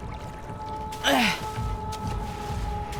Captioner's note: grunts; splashing